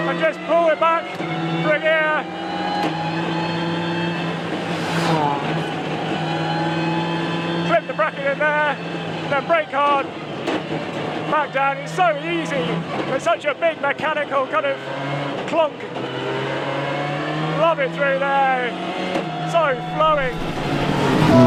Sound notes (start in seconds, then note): 2.3 engine rasping